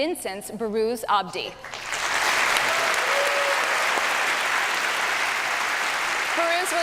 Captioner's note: applause